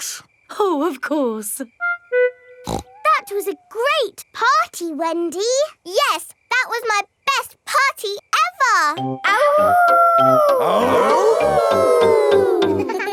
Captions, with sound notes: Bricks. Oh, of course. (SNORTS) That was a great party, Wendy! Yes, that was my best party ever! (HOWLING) (ALL HOWLING)